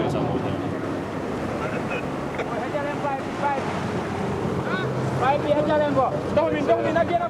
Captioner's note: engine rumbling; indistinct chatter; officers shouting in foreign language